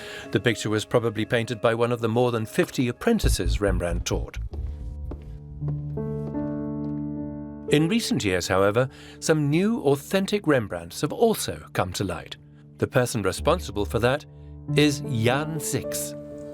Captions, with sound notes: The picture was probably painted by one of the more than 50 apprentices Rembrandt taught. [footsteps sound] In recent years, however, some new authentic Rembrandts have also come to light. The person responsible for that is Jan Six.